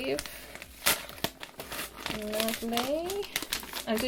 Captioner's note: paper rustling